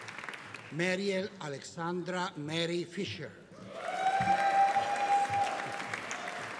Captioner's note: audience cheering